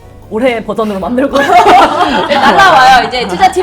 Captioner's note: hahahahahahaha